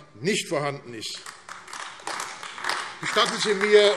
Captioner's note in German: Beifall AfD